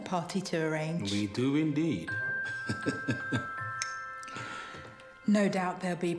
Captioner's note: laughs; bright music